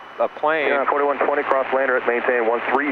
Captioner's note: man On Radio